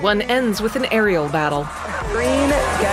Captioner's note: crowd roars